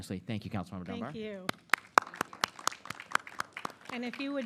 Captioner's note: applause